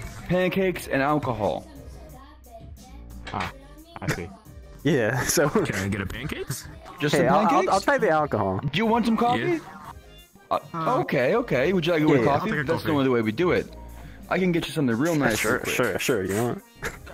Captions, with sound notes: - ..pancakes and alcohol - Ah. *laughs* - I see. Yea, so.. - Can I get a pancakes? - Just the pancakes? Hey, I'll- I'll try the alcohol Hey, I'll- I'll try the alcohol - Do you want some coffee? - Uh.. - Okay, okay, would you like it with coffee? - Okay, okay, would you like it with coffee? - I'll take a coffee - That's the only way we do it - That's the only way we do it - I can get you something real nice real quick Sure, sure - I can get you something real nice real quick Sure, you know what?